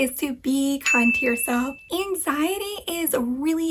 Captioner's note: bell dings